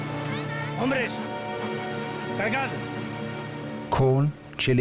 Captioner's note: speaking Spanish